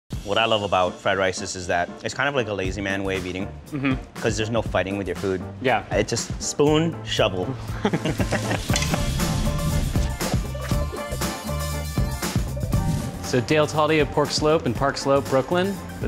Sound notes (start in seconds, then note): 7.7 laughs; 8.6 upbeat music